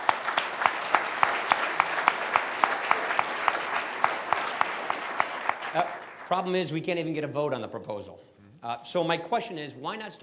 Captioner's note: applause